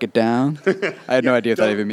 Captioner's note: chuckles